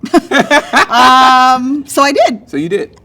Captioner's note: laughing